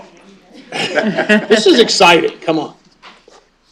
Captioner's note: laughter